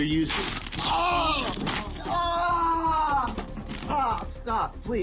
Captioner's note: screaming